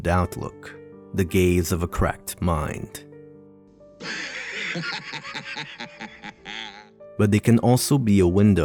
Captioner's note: laughing